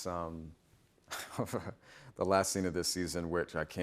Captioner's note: chuckles